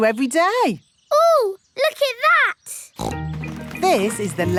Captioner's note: snorts